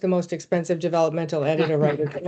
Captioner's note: laughing